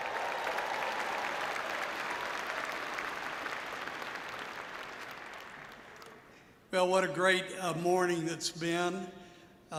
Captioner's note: cheering and applause